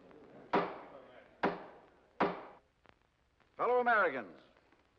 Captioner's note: gavel bangs